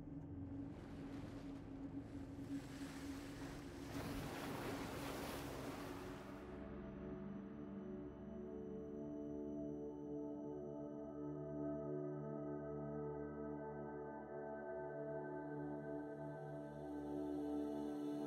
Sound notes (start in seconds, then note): 1.2 ethereal music; 2.4 waves crashing